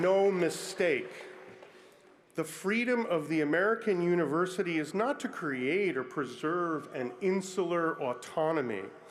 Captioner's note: applause